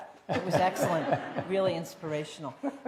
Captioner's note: laughter